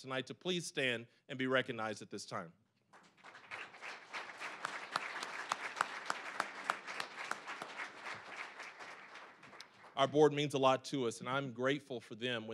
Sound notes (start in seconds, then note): 2.9 applause